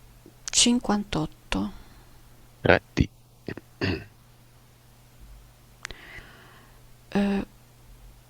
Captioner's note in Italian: schiarire la voce